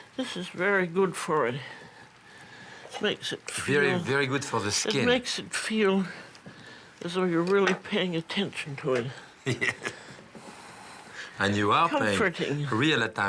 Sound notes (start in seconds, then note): 9.4 laughs